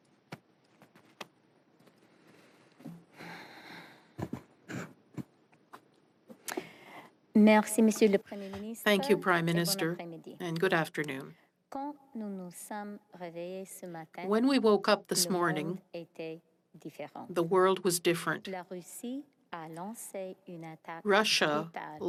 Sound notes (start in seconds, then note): 13.4 speaking French